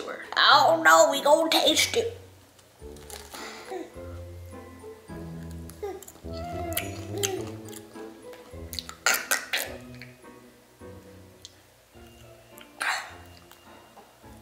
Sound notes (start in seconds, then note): 3.9 playful orchestral music; 5.8 baby coos; 6.6 munches; 8.8 chokes dramatically